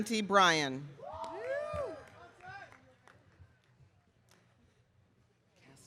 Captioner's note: audience cheering